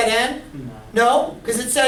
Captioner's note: voiceover